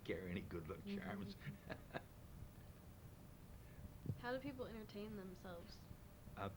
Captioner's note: laughs